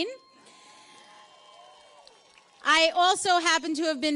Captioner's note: audience cheers and applauds